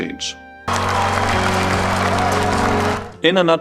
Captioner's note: COP21 crowd cheering and celebrating